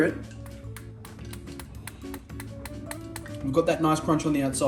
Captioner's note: tapping schnitzel